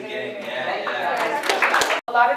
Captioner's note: applause